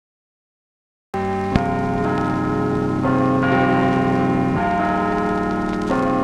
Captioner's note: clock chimes